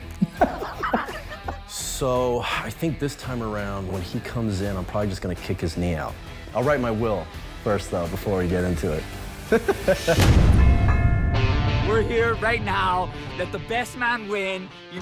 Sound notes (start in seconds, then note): 0.1 laughs; 9.5 laughs; 10.3 bell ringing